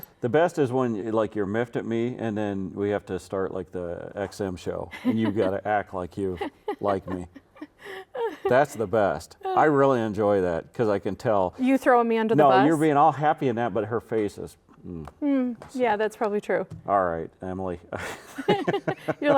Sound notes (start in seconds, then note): 6.2 laughing; 18.0 laughing